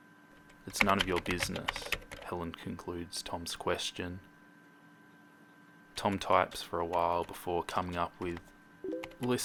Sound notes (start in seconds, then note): 0.4 hitting keys on keyboard; 8.8 Facebook message sound